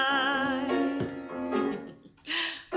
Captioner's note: laughs